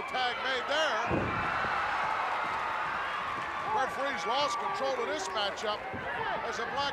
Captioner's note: applause